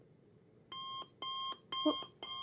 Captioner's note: alarm clock chiming